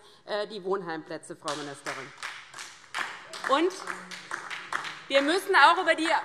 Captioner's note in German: Beifall DIE LINKE und vereinzelt SPD